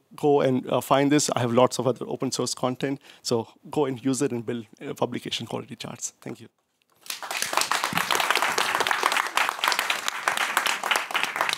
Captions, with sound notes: Go and find this. I have lots of other open-source content. So go and use it and build publication-quality charts. Thank you. [APPLAUSE]